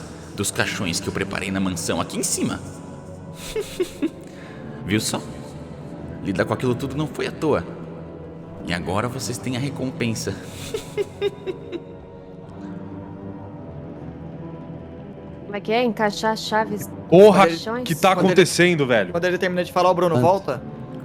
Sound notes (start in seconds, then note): 3.2 cackles; 10.5 cackling